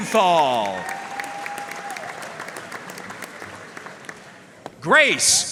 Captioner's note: audience cheering and applauding